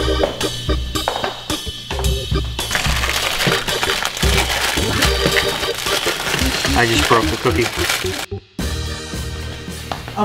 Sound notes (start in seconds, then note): 0.7 wood chair clunking; 2.0 upbeat lively music; 2.6 plastic crinkling; 8.5 upbeat lively music